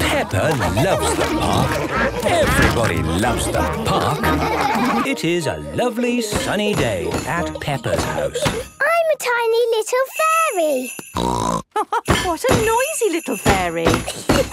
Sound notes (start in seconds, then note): 11.2 snort; 11.7 laugh